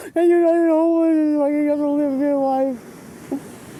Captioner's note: crying